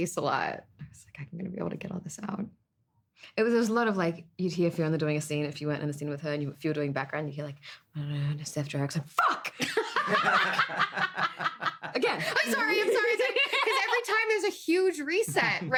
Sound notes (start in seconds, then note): 9.6 all laughing